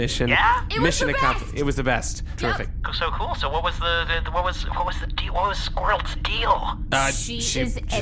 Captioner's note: screaming